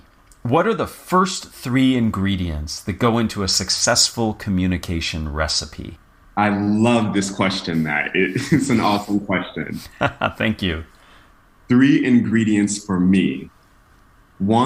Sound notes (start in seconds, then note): 9.8 laugh